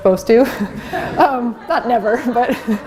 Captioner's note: laughter